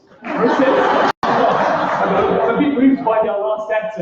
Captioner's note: laughter